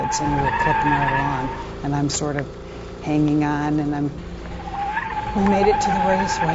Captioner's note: tires squealing